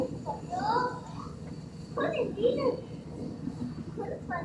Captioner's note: speaks foreign language